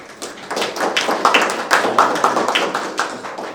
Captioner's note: applause